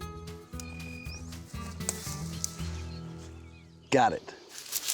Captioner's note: snapping, cutting sound